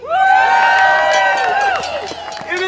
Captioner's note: audience cheering